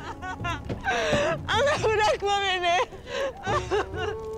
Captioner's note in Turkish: Ağlama Sesleri; Ağlama Sesleri